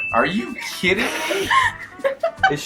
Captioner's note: laughs